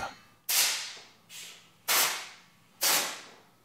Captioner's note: short hissing bursts